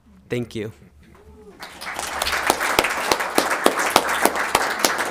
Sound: all applauding

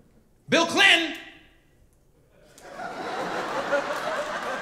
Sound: audience laughing

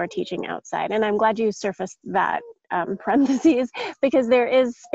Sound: chuckles

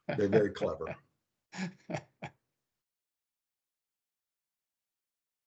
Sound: laughs

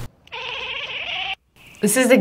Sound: cat chatters

